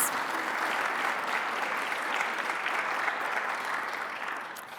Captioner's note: attendees clapping